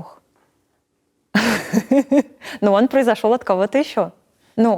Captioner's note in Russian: Смеётся